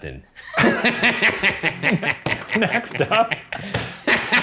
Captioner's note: laughter